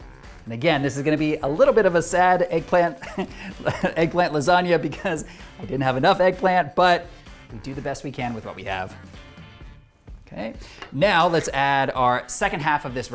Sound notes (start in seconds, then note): 2.9 laughs